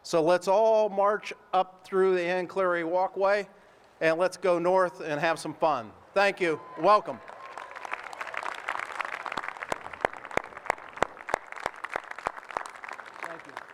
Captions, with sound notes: so let's all march up through the Anne Cleary Walkway, and let's go north and have some fun. Thank you, welcome. (applause)